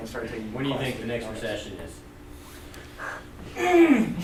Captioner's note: voiceover